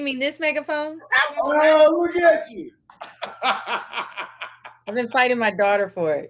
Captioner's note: laughs